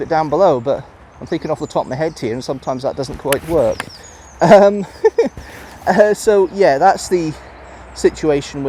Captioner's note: laughs